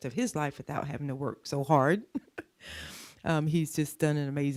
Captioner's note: chuckles